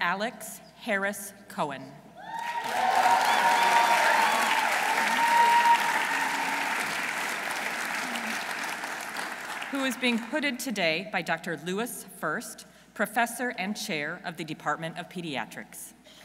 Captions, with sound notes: Dr. Alex Harris Cohen. -(audience cheering) -(audience applauding) Who is being hooded today by Dr. Lewis First, professor and chair of the Department of Pediatrics.